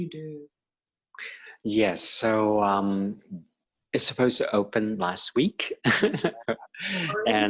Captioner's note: laughing